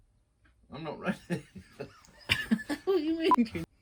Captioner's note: laugher